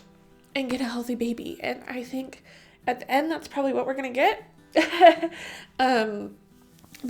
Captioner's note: chuckle